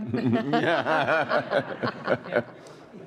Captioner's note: all laughing